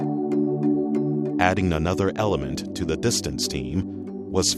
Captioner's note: voiceover